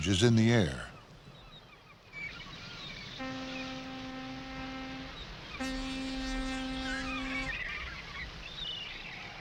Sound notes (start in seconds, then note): 2.4 fog Horn